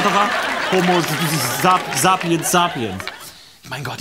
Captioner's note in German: stotternd